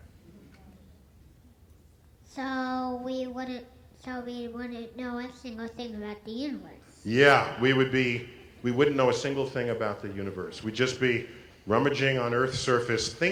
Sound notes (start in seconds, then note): none